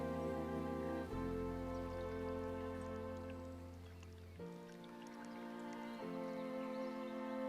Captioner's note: gentle music; wine sloshing